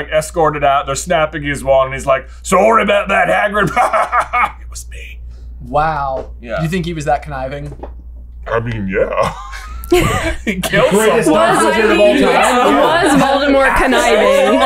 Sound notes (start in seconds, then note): 4.5 whispers; 8.1 deep and slow; 9.2 laughter